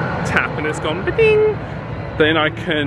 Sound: imitates electronic beep

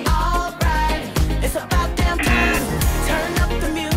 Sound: buzzer rings

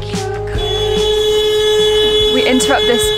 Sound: car horns

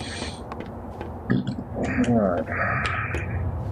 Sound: burps

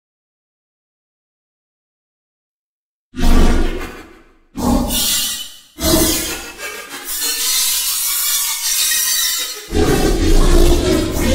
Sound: sound of alien invasion

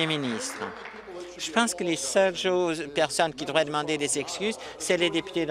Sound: applause

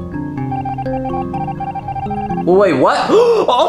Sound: Red beeping

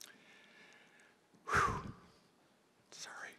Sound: sighs

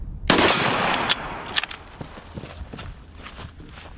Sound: gun shot; ammo reloading

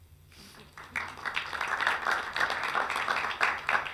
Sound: clapping

